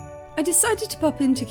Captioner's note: sleigh bells